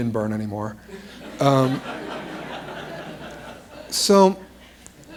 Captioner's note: laughter